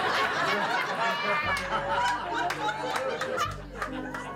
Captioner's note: laughing